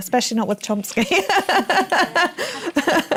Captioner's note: laughter